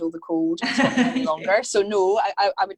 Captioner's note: laughing